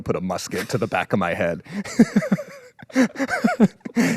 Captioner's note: laughs